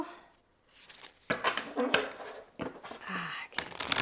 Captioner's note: cards flipping